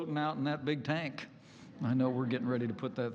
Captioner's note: laughter